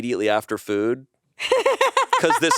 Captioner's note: laughs